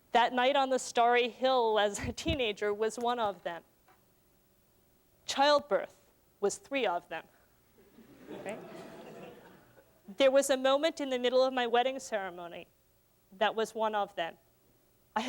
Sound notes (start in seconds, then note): 7.8 laughter